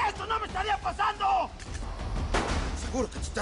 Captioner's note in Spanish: Disparo; Disparos